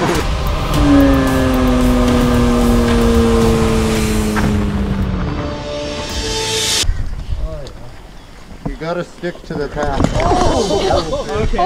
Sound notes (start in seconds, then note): 0.0 epic music; 4.5 explosion rumbles; 10.9 everyone laughs